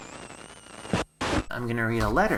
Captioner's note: static